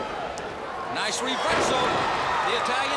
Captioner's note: crowd chatter